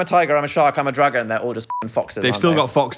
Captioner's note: beep